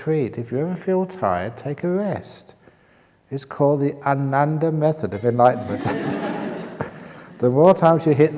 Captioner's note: laughter